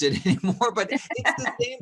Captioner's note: laughing